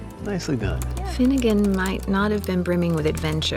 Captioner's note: typing